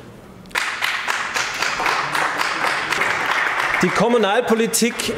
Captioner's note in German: Applaus